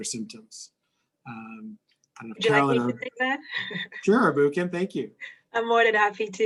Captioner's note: laugh